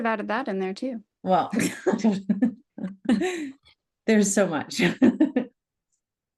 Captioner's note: laughs